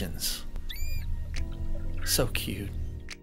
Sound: manatee calve chirping

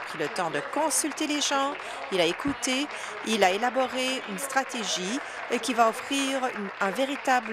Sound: applause

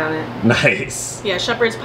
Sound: chuckles

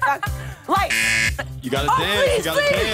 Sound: buzzer

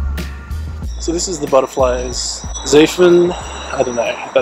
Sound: foreign Language

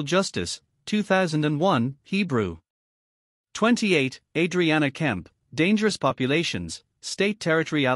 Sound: Hebrew

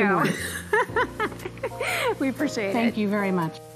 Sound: laughs

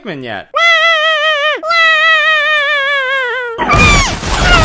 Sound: Crying Pikmin Noises

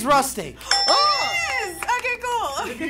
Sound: bell ringing

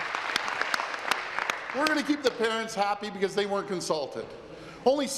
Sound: applause

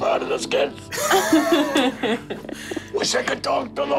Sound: laughing

